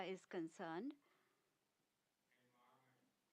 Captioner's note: speaking non-english